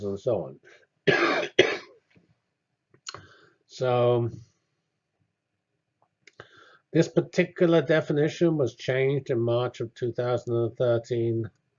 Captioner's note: cough